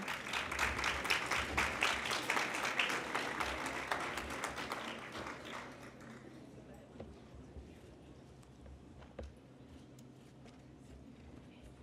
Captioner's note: applause